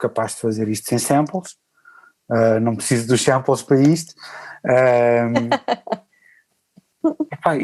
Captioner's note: laughs